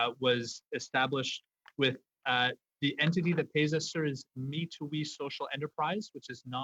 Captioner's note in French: voix de l'interprète